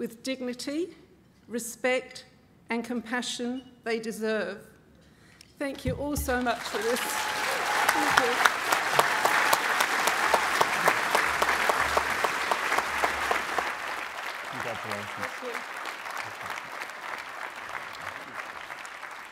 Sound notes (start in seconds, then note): 8.0 applause